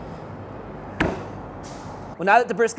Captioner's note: meat thuds